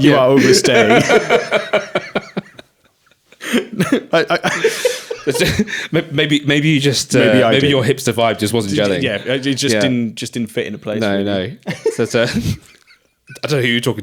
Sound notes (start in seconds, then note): 0.2 both laughing